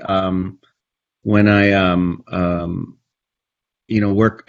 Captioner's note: stammers